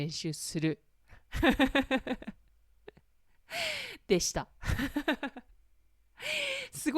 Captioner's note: laughter